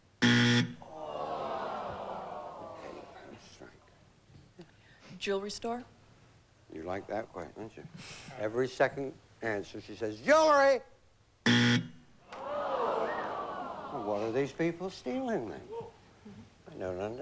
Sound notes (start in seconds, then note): 0.2 buzzer; 11.4 buzzer